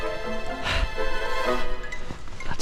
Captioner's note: huffing